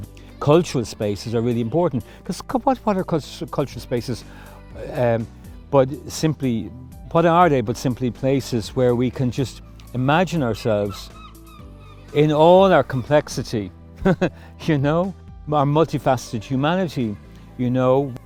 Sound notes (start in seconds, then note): 14.0 laughs